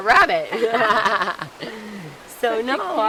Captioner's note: laughs